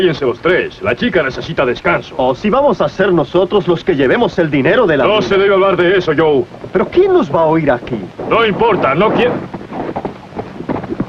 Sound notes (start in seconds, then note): 8.2 horse approaching